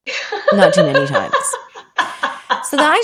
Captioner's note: laughing